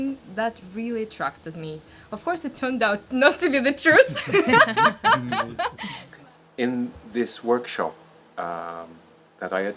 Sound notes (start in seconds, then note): 3.8 laughs